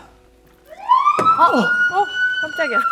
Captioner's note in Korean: 사이렌 소리